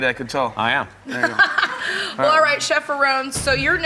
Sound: laughs

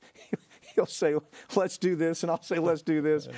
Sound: laughs

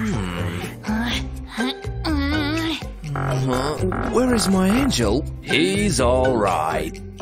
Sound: whispering

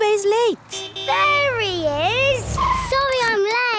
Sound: honking

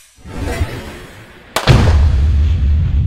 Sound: gun Shot

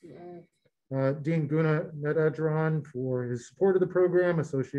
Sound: murmurs

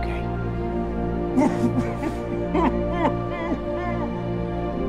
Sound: sobbing

